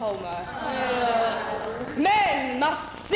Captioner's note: women groan